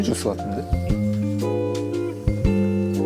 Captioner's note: sniffs